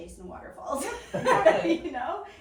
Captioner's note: laughing